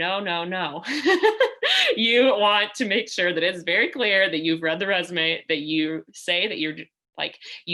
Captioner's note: laughter